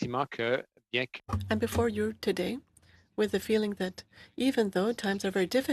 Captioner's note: speaking French